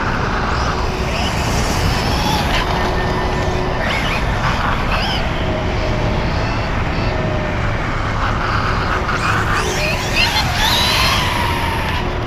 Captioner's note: electric motor screaming